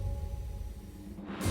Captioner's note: jet rumbles